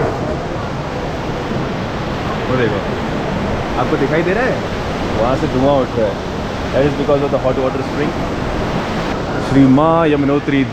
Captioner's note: crowd buzz; crowd buzz